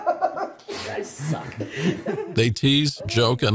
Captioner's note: laughing